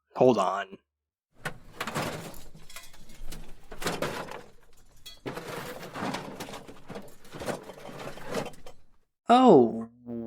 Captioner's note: filing cabinet noises